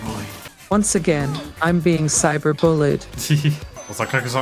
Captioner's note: using text-to-speech